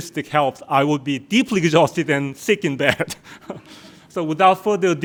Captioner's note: laughs